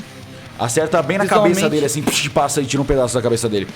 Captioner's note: whizz